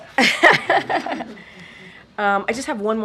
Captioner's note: laughter